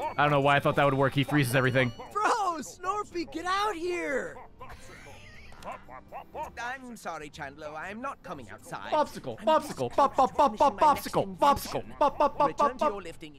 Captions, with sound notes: I don't know why I thought that would work; he freezes everything. [(Bopsicle making its noise during the dialogue)] Bopsicle, bopsicle, bobbobbobbob bopsicle, bopsicle, bobbobbobbob.